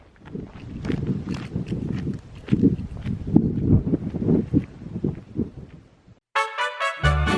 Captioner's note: footsteps fade